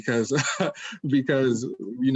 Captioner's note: laughs